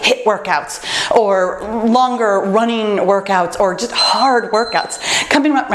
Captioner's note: timer beeps